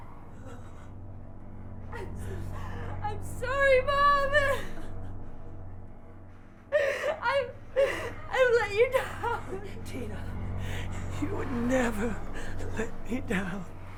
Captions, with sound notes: I'm so, I'm sorry, Mom [sobs]! I've, I've let you down! - Tina, you would never let me down [sobs]!